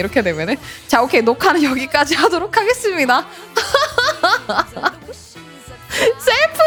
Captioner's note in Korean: 웃음